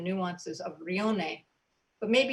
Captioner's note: speaking in foreign language